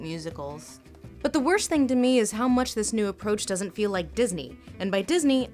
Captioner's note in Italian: voce fuori campo